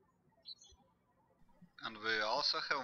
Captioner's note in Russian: птички щебечут